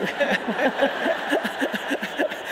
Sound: audience laughing

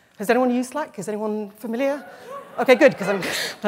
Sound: cheers

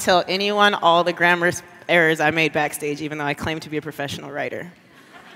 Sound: laughter

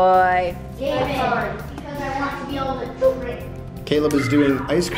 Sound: kids talking together

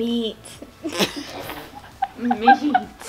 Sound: laughing

